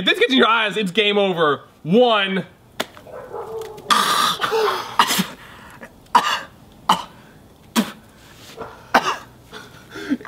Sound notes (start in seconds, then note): 3.7 spitting